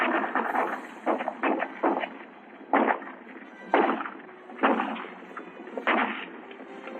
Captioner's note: gunshots